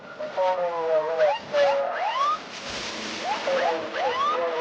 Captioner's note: siren blaring